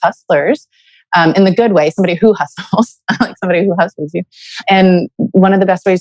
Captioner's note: laughs